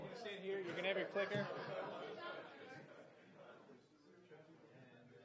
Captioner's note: speaking away from mic